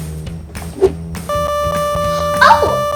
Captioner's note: buzzing